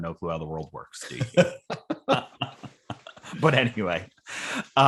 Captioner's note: laughing